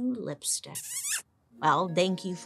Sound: lips smacking

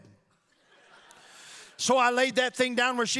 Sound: audience laughing

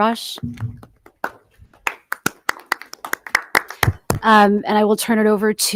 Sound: audience applauding

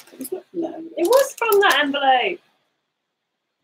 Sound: speaks quietly

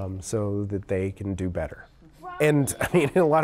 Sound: laughs

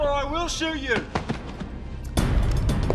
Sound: scuffling

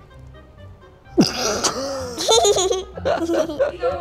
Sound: laughs

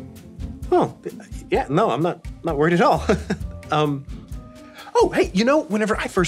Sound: chuckling

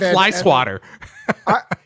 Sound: laughs

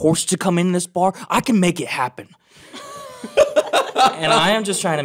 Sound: laughing

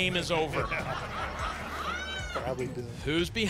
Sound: laughter

